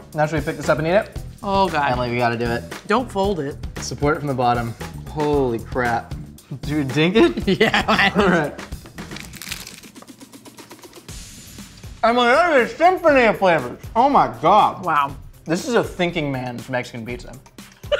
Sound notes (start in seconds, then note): 9.0 crunching; 17.8 laughing